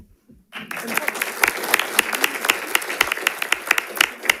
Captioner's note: audience applauding